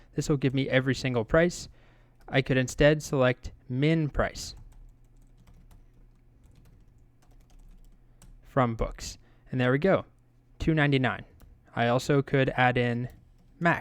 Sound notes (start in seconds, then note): 5.1 keyboard keys clicking